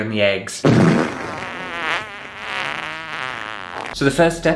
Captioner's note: fart!